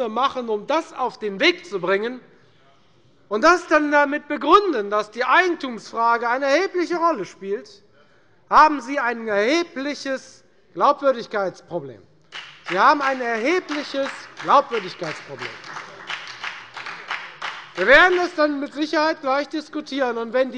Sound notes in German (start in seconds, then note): 12.3 Beifall bei der FDP und bei Abgeordneten der SPD